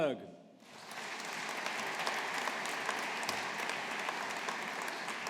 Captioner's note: audience applauding